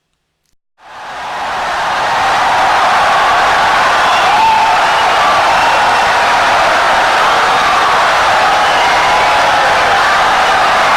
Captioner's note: wild applause and cheering for 17 seconds